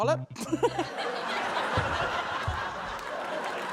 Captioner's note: laughter